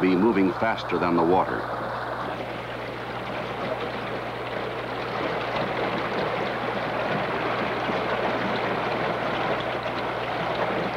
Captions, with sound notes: and having enough speed to be moving faster than the water. (sound of rushing water)